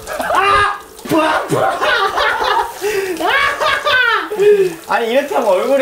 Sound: bustling

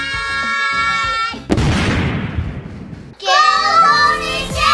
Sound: dramatic thump

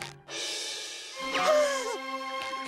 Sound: gasping

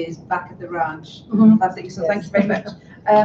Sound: laughs

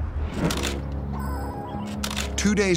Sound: camera clicks

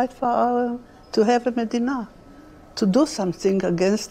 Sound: speaking hebrew

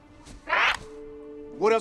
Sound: squawks

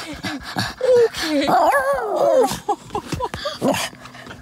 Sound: roar

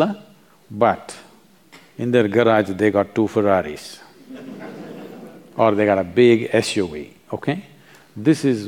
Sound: laughter

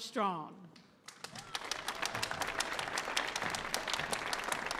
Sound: audience applauding

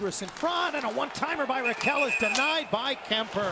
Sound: whistle blows

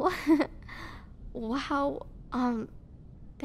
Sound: soft laugh

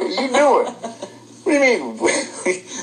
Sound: laughter

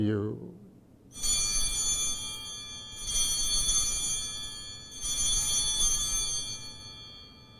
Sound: bells ringing

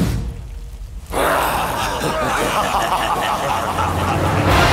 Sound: Ravana laughing with ten heads

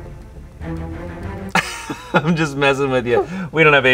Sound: laughs

